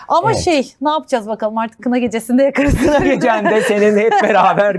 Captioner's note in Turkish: kahkaha